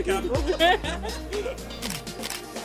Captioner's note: laughing